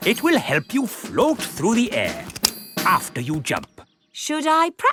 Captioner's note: clicking